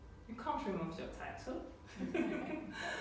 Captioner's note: chuckling